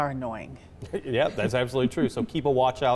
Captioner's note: chuckles